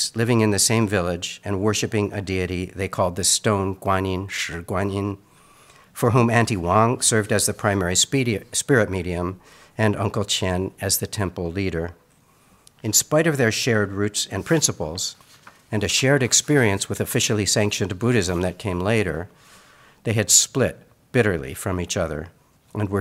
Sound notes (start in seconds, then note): 4.7 speaks in Mandarin